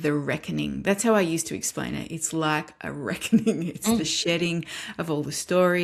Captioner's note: laughs